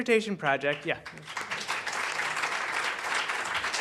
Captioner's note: applause